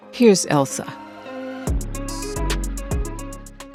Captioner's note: soundbite of archived npr broadcast